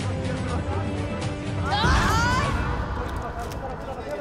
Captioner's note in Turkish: Bağırma Sesleri